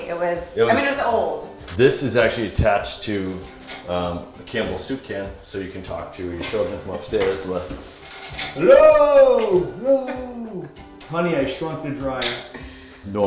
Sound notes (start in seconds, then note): 9.9 laughter